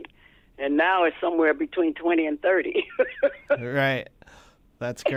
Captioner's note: laughter